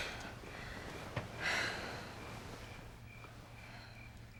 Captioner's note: Lisa breathing heavily